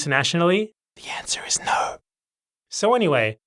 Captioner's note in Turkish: fısıldayarak